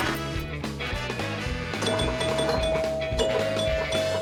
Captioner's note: upbeat music; dinging